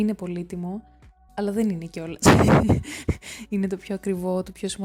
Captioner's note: laughs